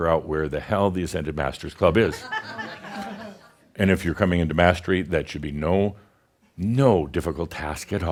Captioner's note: some chuckles